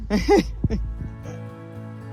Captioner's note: laughing